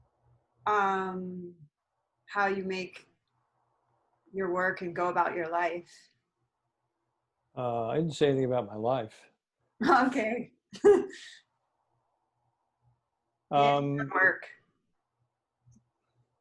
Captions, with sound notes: how that informs how you make your work and go about your life. >> I didn't say anything about my life. >> Okay. [LAUGH] And your work.